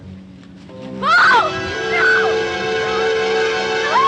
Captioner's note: screaming